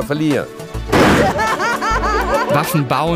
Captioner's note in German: Begeistertes Lachen